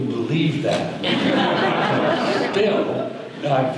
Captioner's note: audience laughter